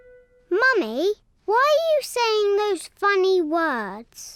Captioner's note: none